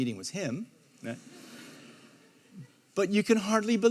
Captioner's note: audience laughs